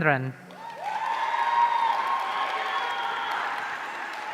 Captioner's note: audience cheering